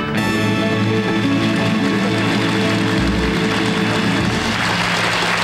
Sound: audience clapping

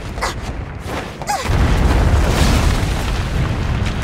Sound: gasps; thuds; rocks pattering

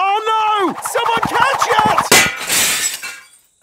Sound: shatters

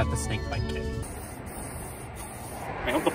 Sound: spraying

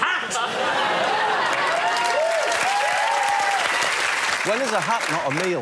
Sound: applause

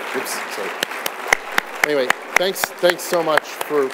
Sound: applause

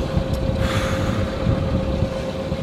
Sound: exhale

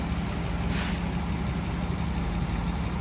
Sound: hydraulic hiss

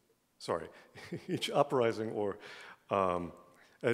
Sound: laughs

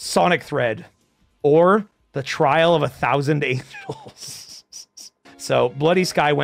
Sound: laughs

